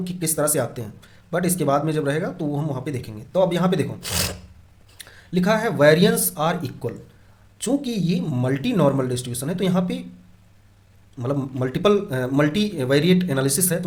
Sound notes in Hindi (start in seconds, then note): 4.0 नाक से की जाने वाली आवाज़